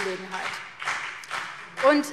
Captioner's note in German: Beifall BÜNDNIS 90/DIE GRÜNEN